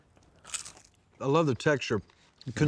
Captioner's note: crunching sound